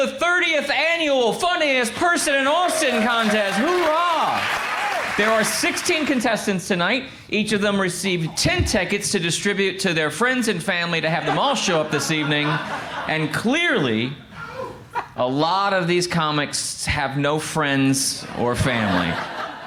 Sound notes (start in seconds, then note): 5.0 crowd applauds